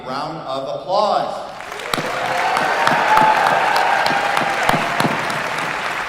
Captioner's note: applause